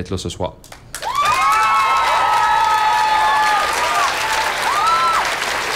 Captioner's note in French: acclamations soutenues